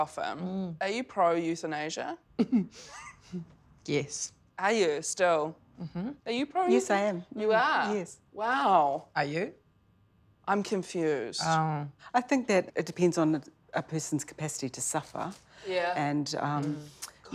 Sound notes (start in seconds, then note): 2.4 chuckles